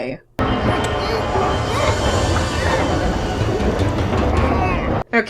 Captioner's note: muffled sounds of panic; ominous music